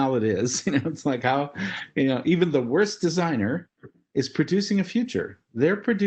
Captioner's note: laugh